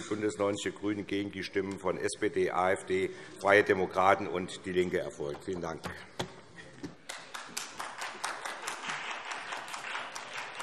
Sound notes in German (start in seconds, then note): 7.0 Vereinzelter Beifall CDU, BÜNDNIS 90/DIE GRÜNEN und SPD